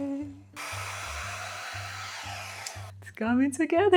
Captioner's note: hair dryer whirring